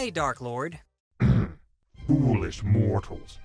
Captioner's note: clears throat